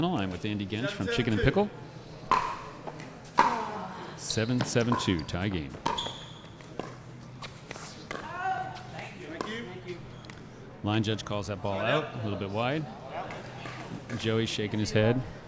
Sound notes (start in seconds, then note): 2.3 ball being smacked; 5.8 ball being hit; 6.3 shoes squeaking